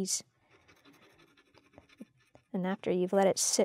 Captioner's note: scratching